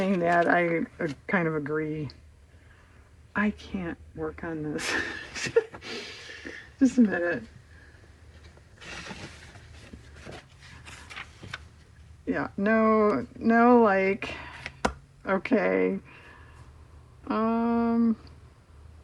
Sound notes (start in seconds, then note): 7.6 laughs